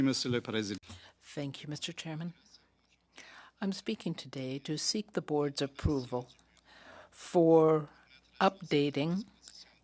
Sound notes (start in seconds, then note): 4.1 speaking French